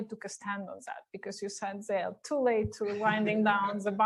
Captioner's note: laughter